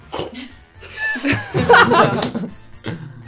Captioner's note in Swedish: Skratt